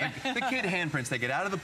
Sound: laughter

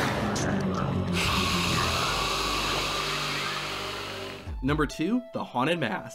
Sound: monster hissing

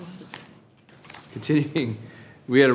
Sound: Trustee faintly speaks

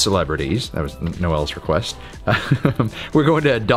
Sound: laughs

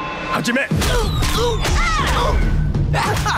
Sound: grunting; laughing

